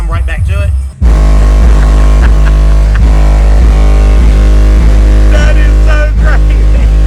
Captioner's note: bass music thumping; laughing